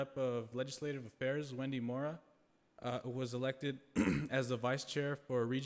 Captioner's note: clears throat